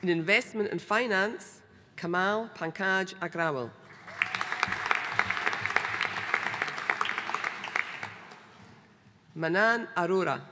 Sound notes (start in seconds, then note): 3.9 audience applauding